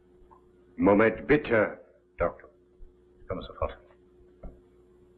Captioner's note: momba speaks german